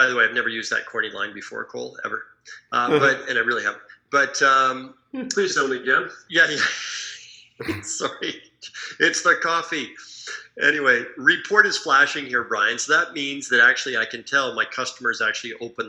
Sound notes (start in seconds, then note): 7.6 laughing